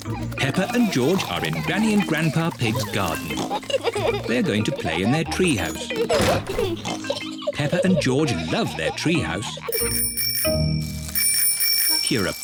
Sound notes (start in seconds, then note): 9.7 bicycle bells ringing